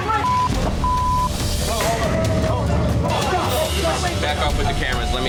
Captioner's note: film crew clamoring; beep